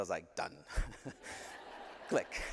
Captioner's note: laughter